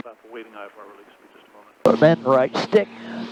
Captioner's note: radio chattering